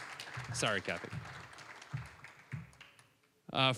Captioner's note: applause